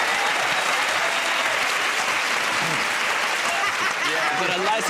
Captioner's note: laughter